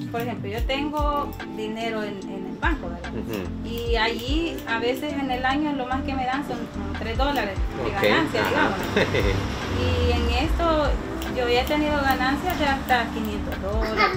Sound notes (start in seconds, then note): 0.2 speaking Spanish; 3.9 scissors clatter; 8.6 he laughs; 9.9 speaking Spanish; 13.8 baby babbling